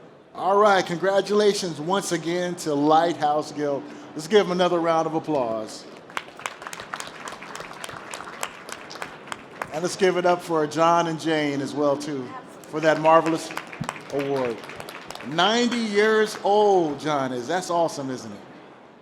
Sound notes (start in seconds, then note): 5.9 applause; 14.3 applause